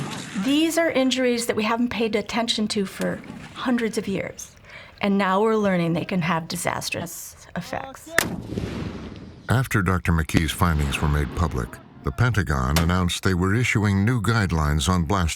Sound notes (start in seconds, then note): 8.2 fires